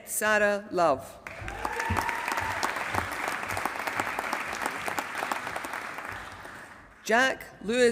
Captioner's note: applause